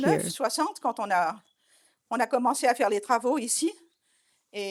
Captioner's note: French spoken audio